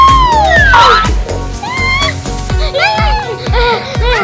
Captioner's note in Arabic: أطفال يهتفون